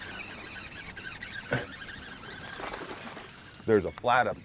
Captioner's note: reel cranking; fish splashing